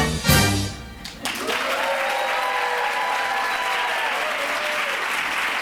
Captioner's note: applause